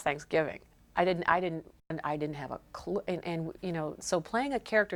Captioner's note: stammering